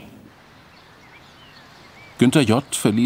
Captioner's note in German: Vogelgezwitscher